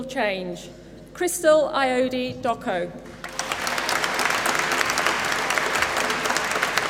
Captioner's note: applause